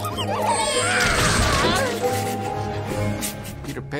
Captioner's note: yells